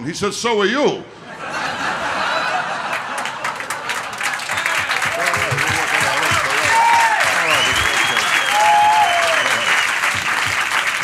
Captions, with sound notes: He said so will you. (audience laughter) (applause)